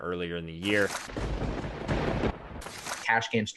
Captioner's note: thunder cracks